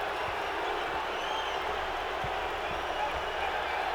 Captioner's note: audience cheering